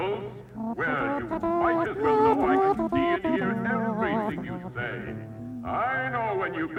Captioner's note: humming Little Rascal theme